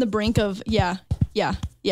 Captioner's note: tapping chest